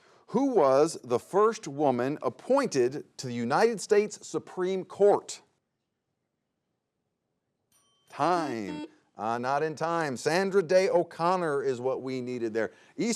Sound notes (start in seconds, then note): 7.7 bell dings; 8.4 buzzer buzzes